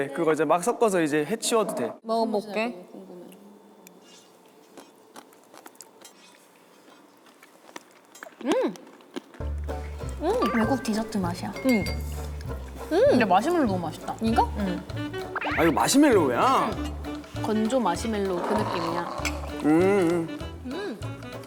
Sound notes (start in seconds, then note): 6.8 crunch crunch